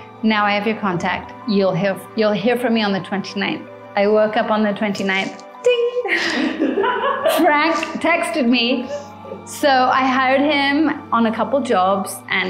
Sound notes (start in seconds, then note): 6.0 laughing